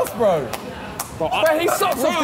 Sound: clapping

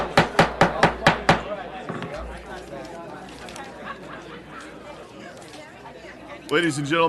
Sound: gavel

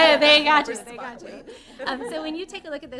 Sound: laughter

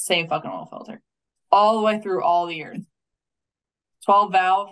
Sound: faintly speaking

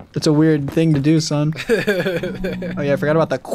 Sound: laughs

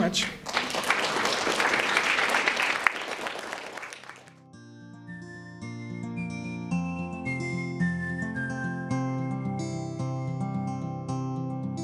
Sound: applause

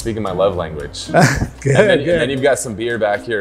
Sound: laughs

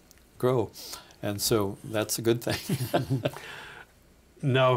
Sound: laughing

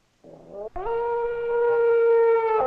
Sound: dog howls

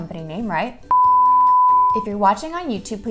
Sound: high-pitched toning

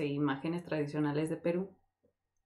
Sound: none

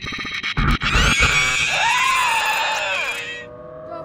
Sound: shrieker noises

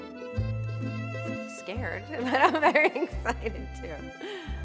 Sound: laughs

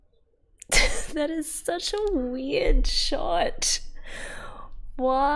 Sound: laughs

